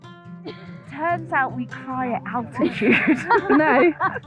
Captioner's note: laughs